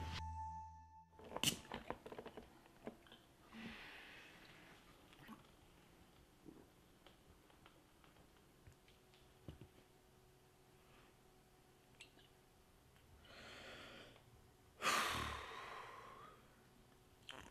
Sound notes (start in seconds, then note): 4.2 TV plays in the background; 14.8 deep breath